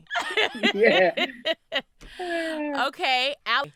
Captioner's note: laughing